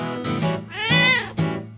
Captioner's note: meow